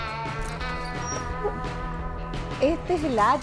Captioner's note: soft squeaking